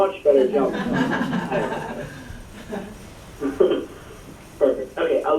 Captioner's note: laughs